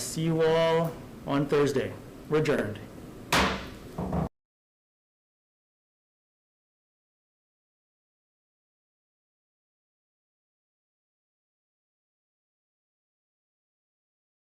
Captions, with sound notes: See you all on Thursday. We're adjourned. (gavel bangs)